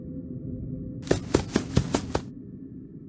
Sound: footsteps

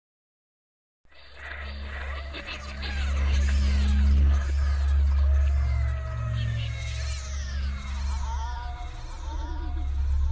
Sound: sound of demon haunting

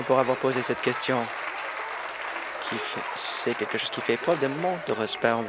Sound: applause

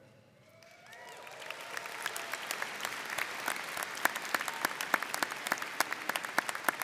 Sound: audience cheering and applauding

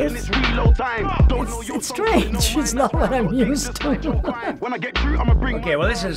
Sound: chuckles

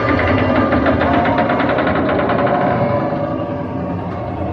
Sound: gears grinding

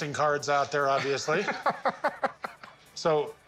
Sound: lauglaughs

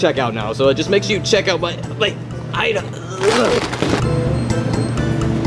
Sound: grunting

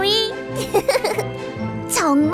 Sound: giggling

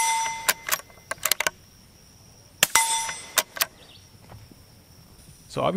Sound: gun reloading and metal ping

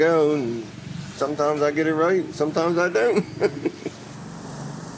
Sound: laughs

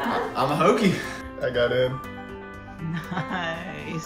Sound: sighs

